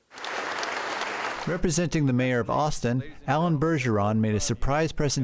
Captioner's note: applause